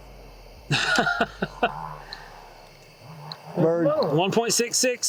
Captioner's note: chuckles